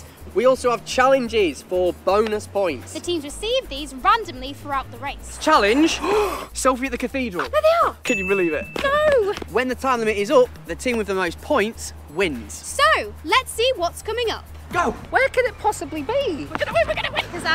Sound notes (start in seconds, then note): 6.0 gasp